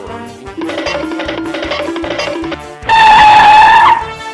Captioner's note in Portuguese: Som de corrida cartuneca